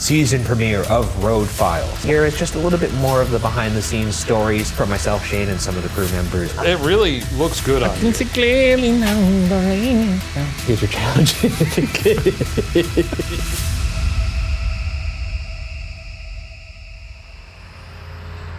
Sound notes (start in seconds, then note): 10.1 laughs; 12.3 both laughing; 13.8 dramatic music